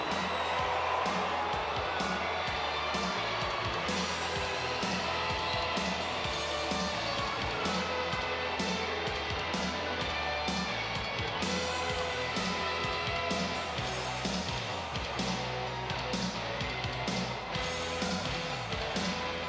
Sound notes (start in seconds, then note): 1.8 crowd cheering